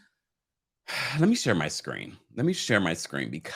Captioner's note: sighs